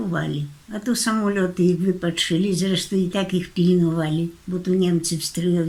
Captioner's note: German